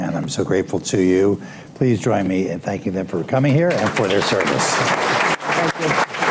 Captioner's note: applause